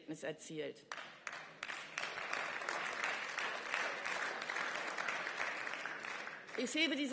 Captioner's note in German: Beifall